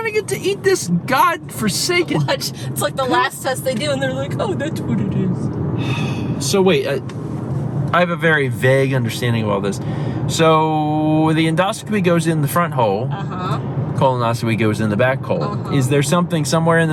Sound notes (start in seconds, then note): 5.8 exasperatedly sighs